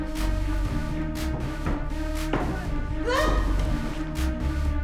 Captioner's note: all screaming; dramatic music